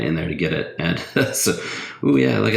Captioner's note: laughs